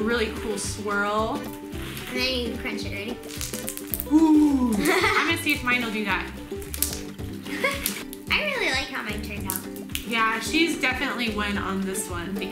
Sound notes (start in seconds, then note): 3.1 crunching of slime; 6.4 crunching of slime